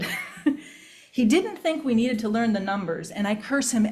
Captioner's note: chuckles